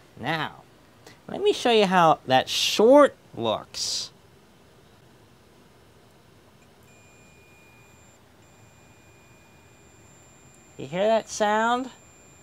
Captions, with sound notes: Now let me show you how that short looks. (Quiet beep) Do you hear that sound?